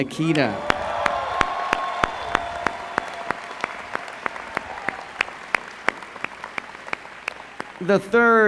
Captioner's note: applause